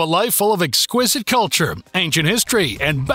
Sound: voiceover

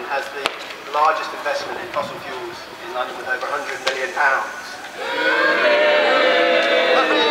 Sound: boos

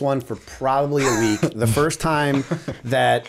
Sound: chuckle

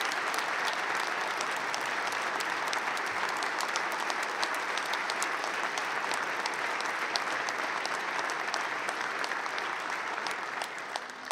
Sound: applause

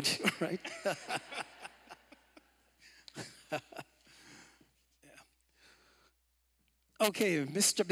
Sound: laughter

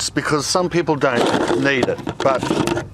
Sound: sifter lid scraping

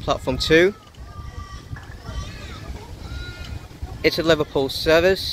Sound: crows speaking in distance

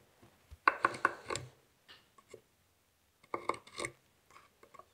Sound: hand tool scrapes

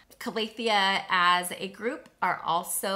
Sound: none

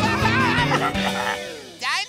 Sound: screaming; laughing

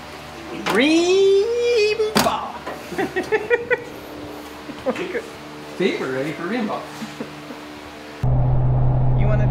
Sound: laughing

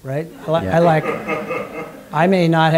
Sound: laughter

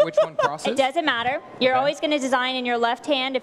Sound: laughter

